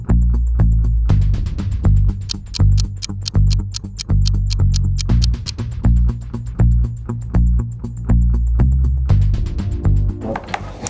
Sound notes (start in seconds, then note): 2.3 clock ticking